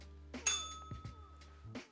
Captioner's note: bell rings